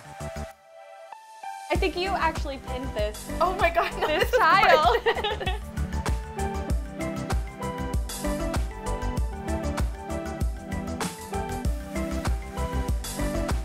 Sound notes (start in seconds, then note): 3.8 both laughing; 3.8 laughs